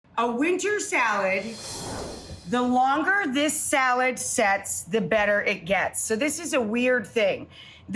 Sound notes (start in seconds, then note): 1.1 whooshing